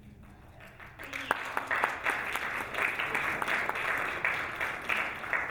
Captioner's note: audience applauding